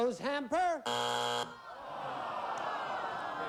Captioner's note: buzzer